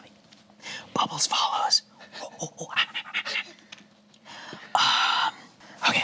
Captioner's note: imitates monkey